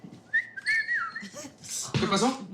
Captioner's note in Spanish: Silbidos